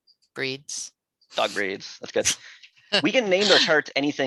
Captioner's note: student laughing